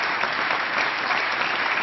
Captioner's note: applause